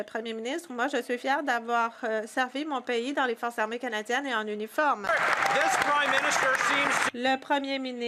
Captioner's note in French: voix de l'interprète